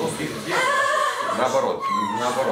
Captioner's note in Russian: смех